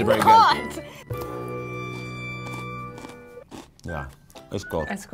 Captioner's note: crunching